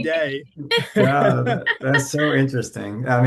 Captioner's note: laughing